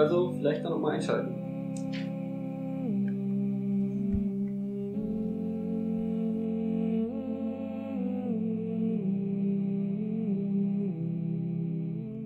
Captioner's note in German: weihnachtliches Summen